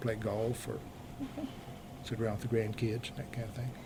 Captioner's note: laughs